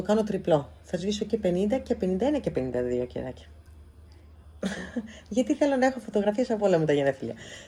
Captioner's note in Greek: γέλια